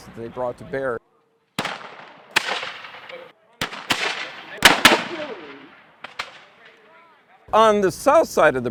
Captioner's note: weapons firing